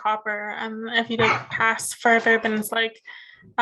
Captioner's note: coughing